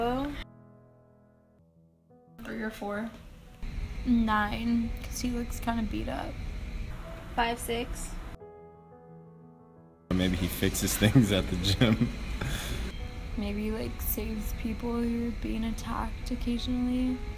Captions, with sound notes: 3 or 4 9, 'cause he looks kinda beat up 5, 6 Maybe he fixes things at the gym *chuckles* Maybe like saves people who are being attacked occasionally